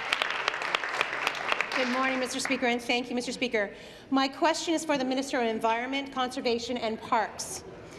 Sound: applause

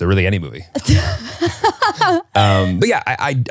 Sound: laughs

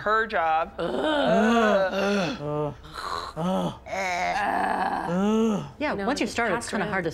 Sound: ughing in unison

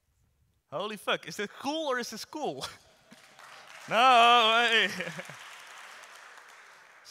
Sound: audience applauds

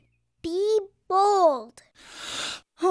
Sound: sigh

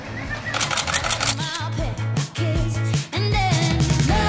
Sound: camera shutter clicks; upbeat music

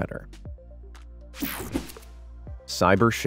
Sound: slow relaxing music; photo whooshing

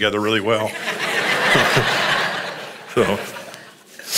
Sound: congregation laughs

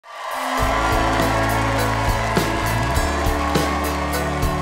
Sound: audience cheers

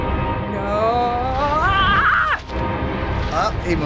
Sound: screaming

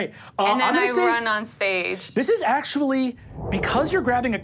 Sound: air whooshing

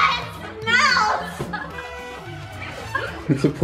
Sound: family laughing

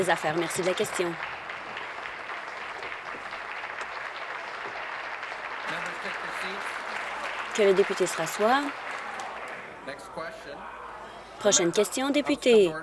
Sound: applause

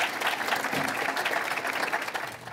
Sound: applause

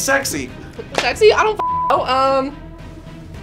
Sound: beep

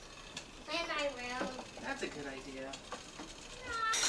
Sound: sound of whirling timer

